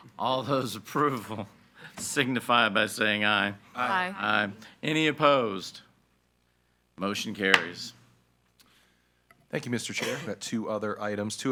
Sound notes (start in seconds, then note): 7.5 gavel bangs